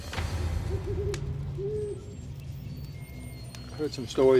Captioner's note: owl hooting